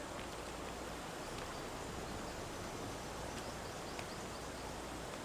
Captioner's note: birds chirping